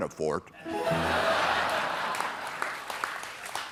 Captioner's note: laughter; applause